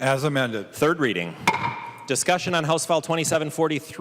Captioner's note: gavel